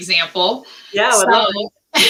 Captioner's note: laughter